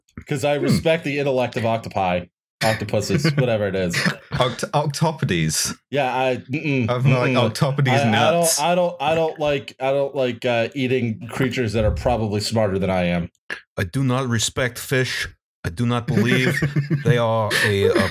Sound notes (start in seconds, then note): 14.1 NY voice; 16.1 laughter